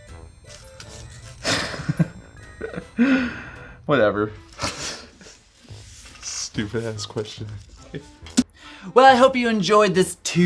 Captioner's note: laughs